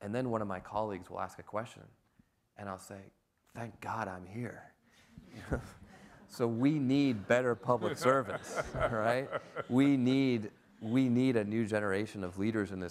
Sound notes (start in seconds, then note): 5.3 laughs; 7.5 everyone laughs